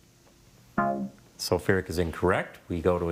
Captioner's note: scoreboard buzzes